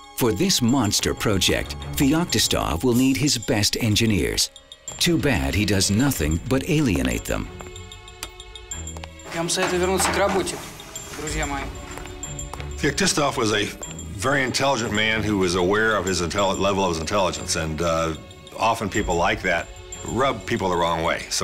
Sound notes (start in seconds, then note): 7.4 tense music; 9.5 speaking foreign language